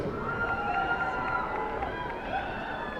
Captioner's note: cheers and applause